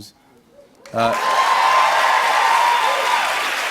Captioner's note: cheers and applause